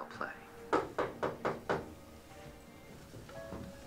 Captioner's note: knocking